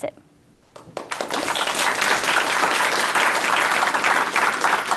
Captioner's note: applause